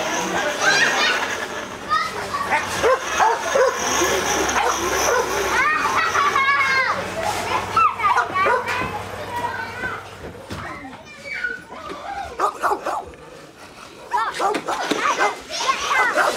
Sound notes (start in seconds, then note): 2.7 dog barking, child laughing